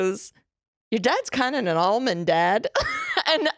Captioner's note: laughs